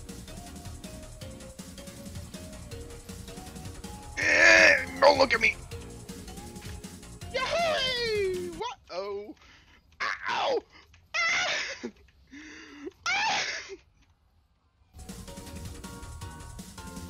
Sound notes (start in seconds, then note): 7.3 depraved panic screeching